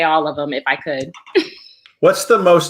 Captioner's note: laughs